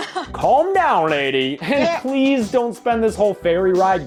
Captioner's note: laughs